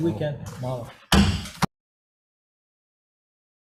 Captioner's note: gavel bangs